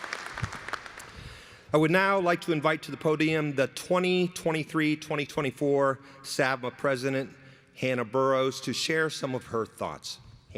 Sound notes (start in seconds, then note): 1.6 applause